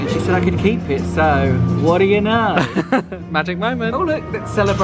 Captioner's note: laughs